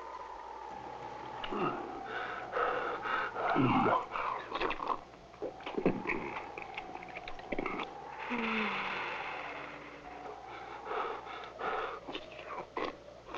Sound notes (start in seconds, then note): 3.5 slurping